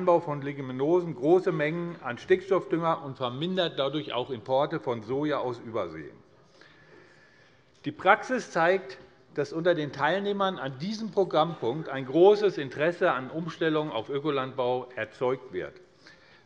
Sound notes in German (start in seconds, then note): none